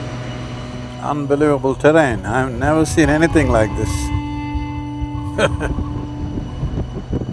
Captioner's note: laughs